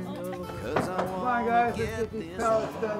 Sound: knocking on wood

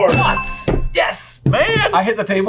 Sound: bell ringing

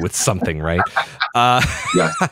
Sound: laughs

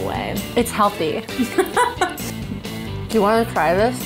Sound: laughter

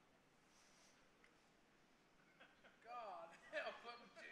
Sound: congregation laughing

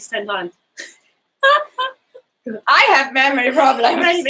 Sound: both laughing

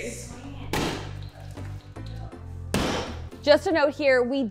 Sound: sledgehammer bangs

